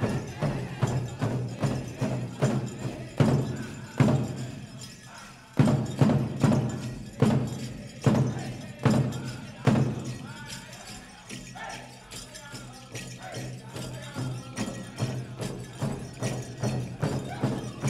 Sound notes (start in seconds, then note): 10.0 regalia ornaments jingling; 13.9 drum sounding with increasing cadence; 17.6 lead singer singing